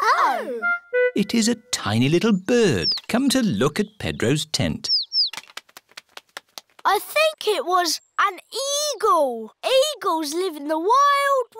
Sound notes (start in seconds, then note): 4.4 tweeting